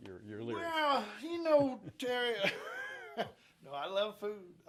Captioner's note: chuckles